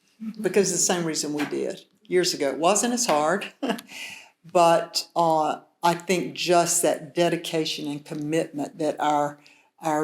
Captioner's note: chuckles